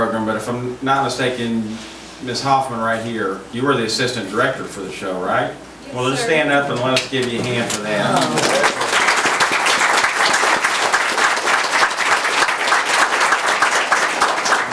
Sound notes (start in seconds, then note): 7.2 audience applauds